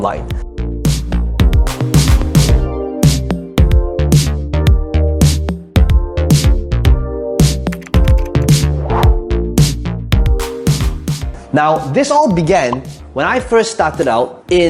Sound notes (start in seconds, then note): 0.3 groovy music; 7.6 keyboard typing